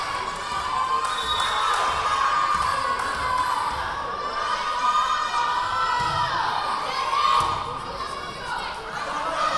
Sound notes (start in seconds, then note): 1.1 whistle blowing; 1.8 yelling